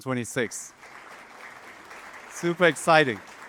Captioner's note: audience applauding